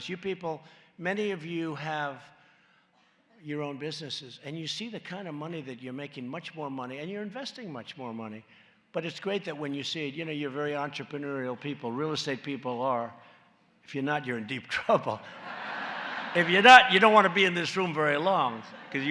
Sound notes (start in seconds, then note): 15.3 laughter